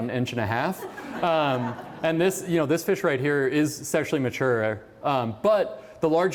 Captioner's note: laughter